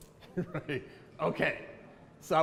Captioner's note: laughs